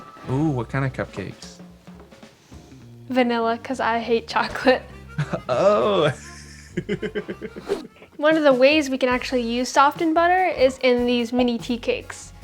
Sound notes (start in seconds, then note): 4.5 laughs